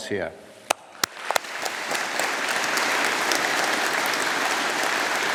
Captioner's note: audience applauding